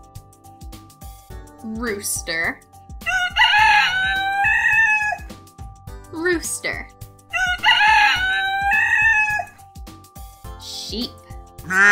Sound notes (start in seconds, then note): 3.0 rooster crowing; 7.3 rooster crowing